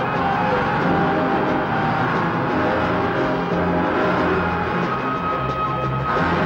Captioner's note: upbeat music; engine whirring; upbeat music